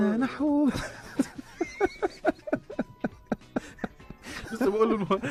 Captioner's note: laughter